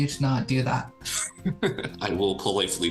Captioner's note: chuckling